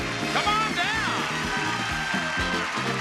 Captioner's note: audience clapping; upbeat music